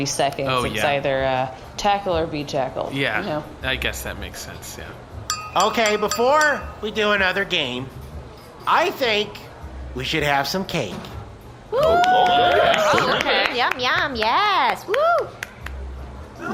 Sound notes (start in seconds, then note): 5.2 dinging glass; 11.7 cheering